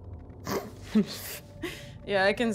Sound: demon laughs

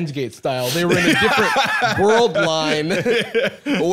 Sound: laughing

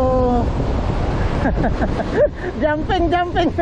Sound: laugh!!!

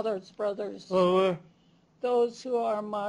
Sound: non-english speech

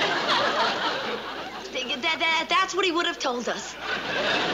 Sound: stutters

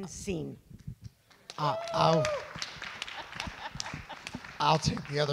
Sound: audience clap

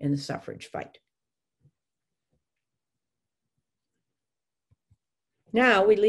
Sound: silence

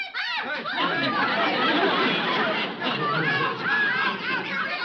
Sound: audience laughing

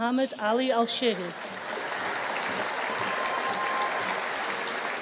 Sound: audience cheering

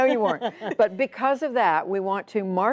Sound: laughter

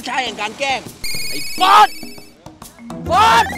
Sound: shouts

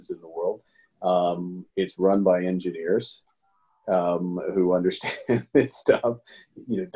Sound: laughing

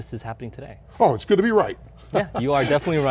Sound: laughs

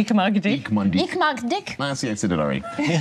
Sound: speaks in German

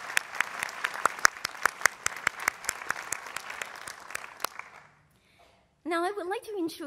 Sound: applause

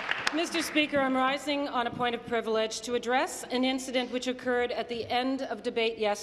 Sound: applause

